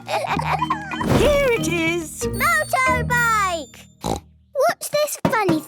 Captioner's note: snort